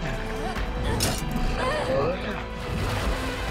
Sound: Merlinda grunts

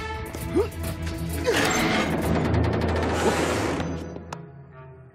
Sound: grunting

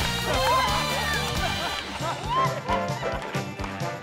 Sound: laughing

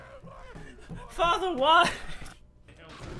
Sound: laughter

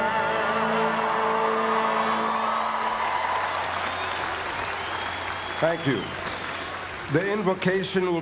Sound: applause

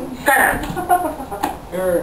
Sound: seductive laugh

